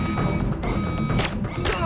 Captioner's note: gunshots; guard grunts